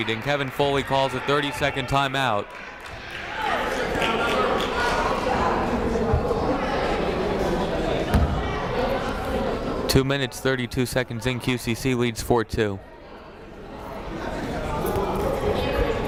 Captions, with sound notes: and Kevin Foley calls a 30 second timeout. (crowd murmuring) Two minutes, 32 seconds in, QCC leads four-two.